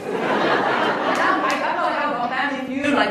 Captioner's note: laughs